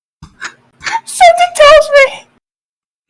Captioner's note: inhale